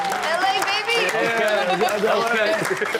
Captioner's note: audience claps and cheers